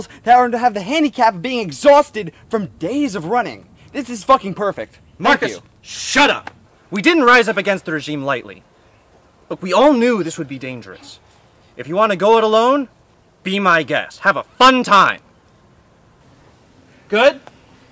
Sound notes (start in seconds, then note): 4.7 sarcasm